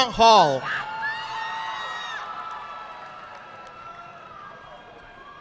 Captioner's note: audience clapping